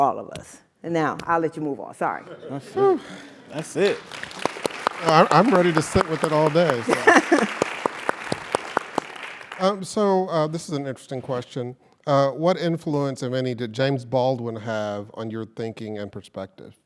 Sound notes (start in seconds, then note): 3.5 applause; 4.8 laugh